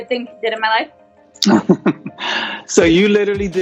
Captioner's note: laughs